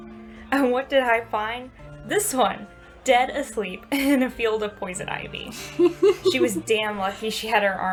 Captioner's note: Theo laughs